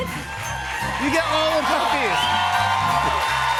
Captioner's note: cheers and applause